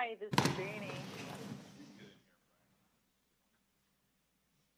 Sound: background chatter

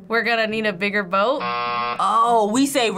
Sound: buzzer rings

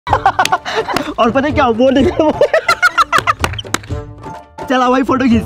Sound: laughing

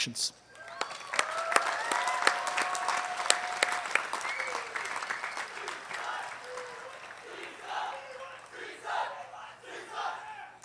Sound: applause

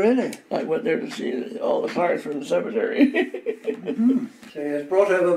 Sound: laughs

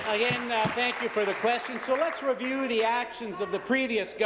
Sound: applause

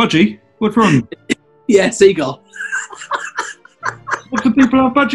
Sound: cackling

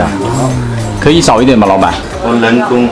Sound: gasping; speaks in Chinese

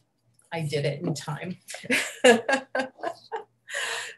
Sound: laughs

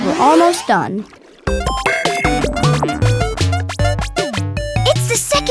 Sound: videogame sounds

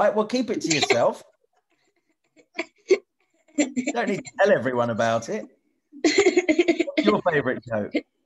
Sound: laughs

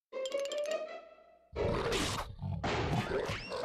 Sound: growling

